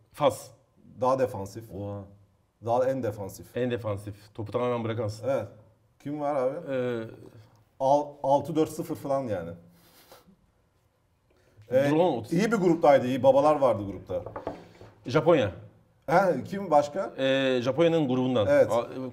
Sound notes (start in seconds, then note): none